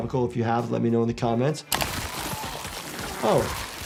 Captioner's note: body tearing